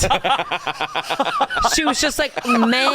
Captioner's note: hosts laughing